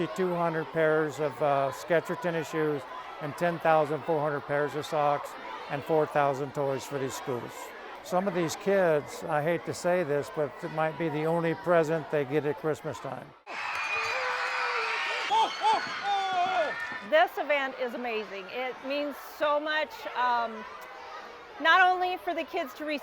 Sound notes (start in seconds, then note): 15.5 cheering